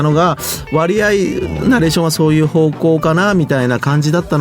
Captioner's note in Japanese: 鼻息